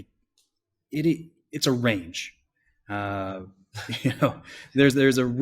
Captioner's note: laughs